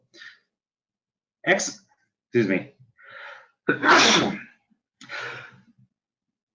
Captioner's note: sneezing